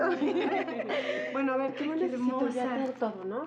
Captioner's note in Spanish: risas